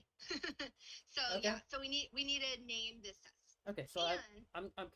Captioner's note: laughs